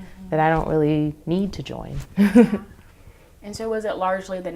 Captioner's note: laughs